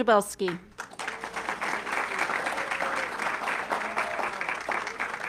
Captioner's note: audience clapping